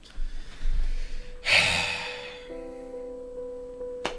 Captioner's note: sigh; sad piano music